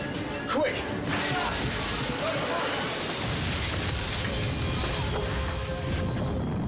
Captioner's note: dramatic music; fire crackling